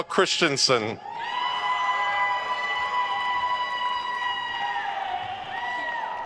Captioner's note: attendees cheering and applauding